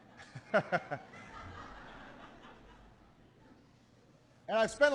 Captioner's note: laughter